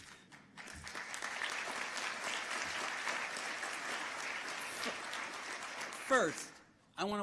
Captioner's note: applause